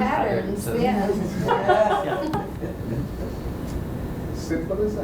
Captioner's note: laughter